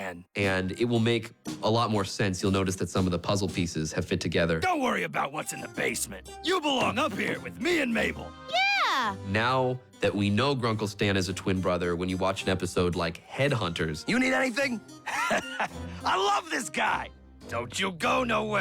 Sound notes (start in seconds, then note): 15.0 chuckles